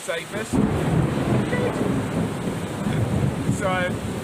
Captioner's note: thunder